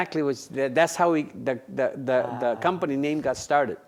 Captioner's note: stammers